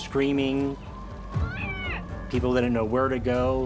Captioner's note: person screams